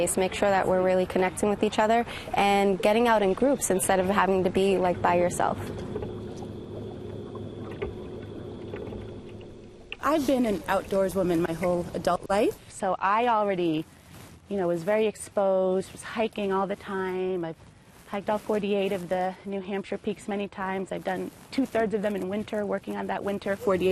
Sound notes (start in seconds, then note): 5.4 paddling